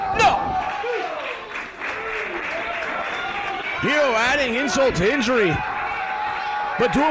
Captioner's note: applause